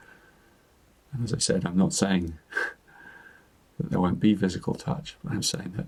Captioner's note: chuckles